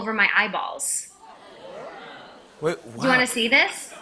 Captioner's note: audience murmuring